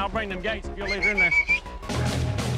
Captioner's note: booger whistling